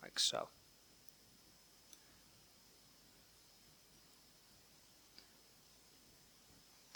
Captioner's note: silence